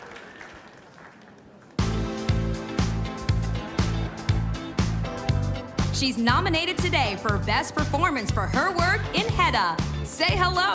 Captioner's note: cheers and applause